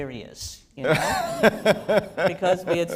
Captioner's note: laughter